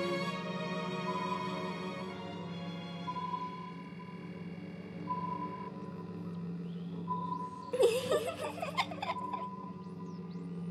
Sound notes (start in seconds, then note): 1.2 ship beeps; 7.7 child giggles